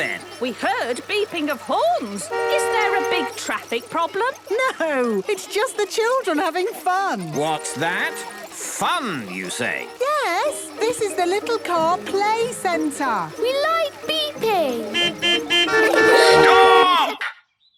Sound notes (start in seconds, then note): 14.5 horns beeping